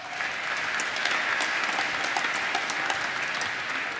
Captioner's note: applause